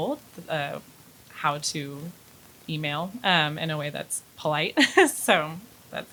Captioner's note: laughs